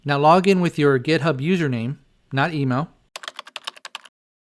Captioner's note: typing